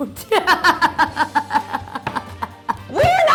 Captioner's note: laughs antagonistically